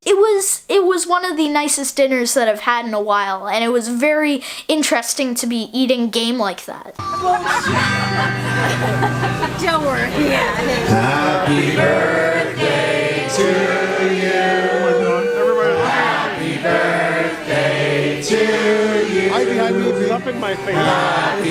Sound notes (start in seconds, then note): 7.4 crowd laughing